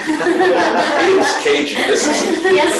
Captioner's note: all laugh